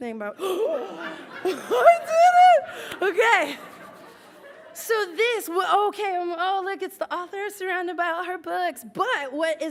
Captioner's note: laughs